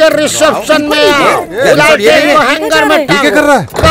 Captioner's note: Exclaiming